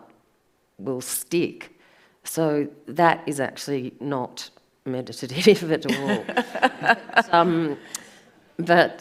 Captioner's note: audience laughs